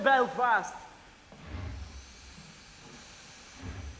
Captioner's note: train moving slowly